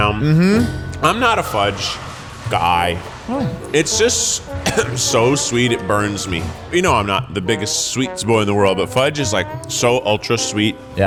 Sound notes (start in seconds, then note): 4.3 coughs